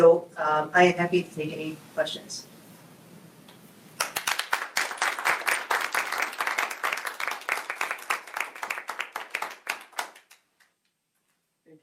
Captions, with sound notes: And so I am happy to take any questions. (group applauds)